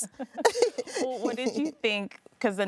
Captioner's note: laughing